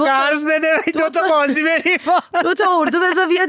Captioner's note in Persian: خنده